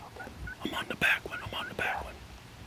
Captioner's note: whispering